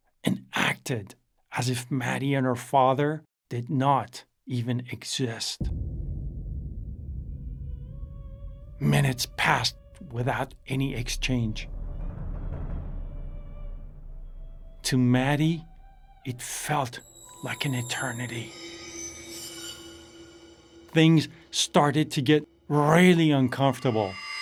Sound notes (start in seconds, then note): 5.6 cinematic hit; 7.3 woman singing soprano; 12.2 drums; 19.2 tense music